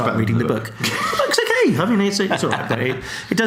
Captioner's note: laughs